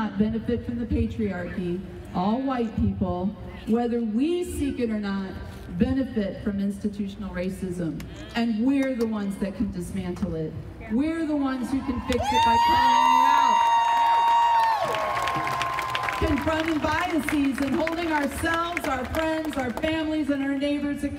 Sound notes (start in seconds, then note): 13.5 audience cheering loudly